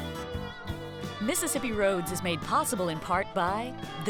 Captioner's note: voiceover